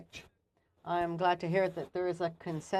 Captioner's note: speaking French